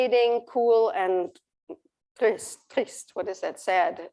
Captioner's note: non-english speech